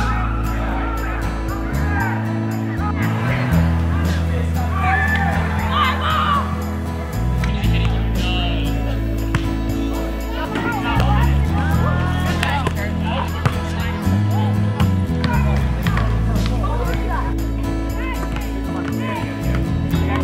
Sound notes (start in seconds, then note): 0.2 kids screaming; 5.9 kids talking